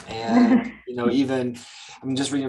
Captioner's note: chuckles